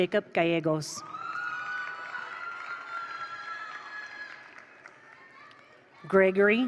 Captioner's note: attendees cheer; attendees applaud